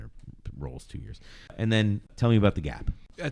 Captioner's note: uh